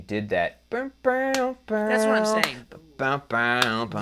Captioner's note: mimicking guitar